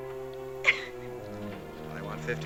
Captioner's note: crying